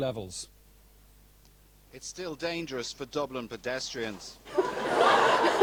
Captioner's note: laughter